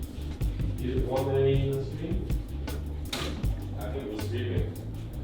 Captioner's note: general chatter